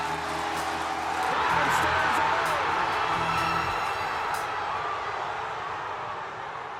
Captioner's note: crowd cheers